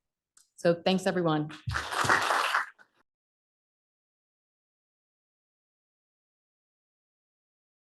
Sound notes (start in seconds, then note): 1.5 applause